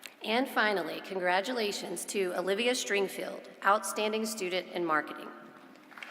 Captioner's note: applause